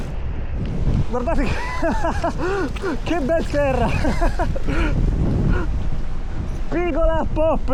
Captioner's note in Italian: risate